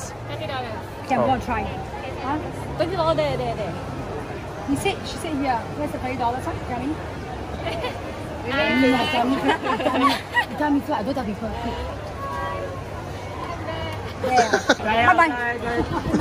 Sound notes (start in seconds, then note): 9.0 laughs